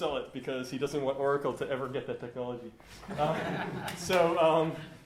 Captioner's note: laughter